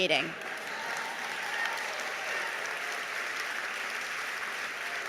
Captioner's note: audience applauding